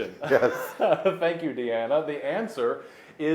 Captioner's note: laughing